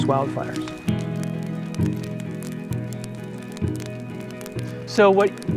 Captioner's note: fire crackling